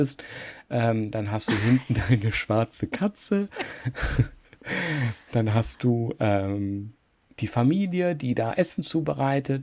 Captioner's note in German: gelächter